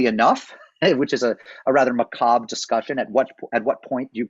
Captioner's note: laughs